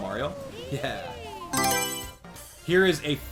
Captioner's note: Mario Selection Sound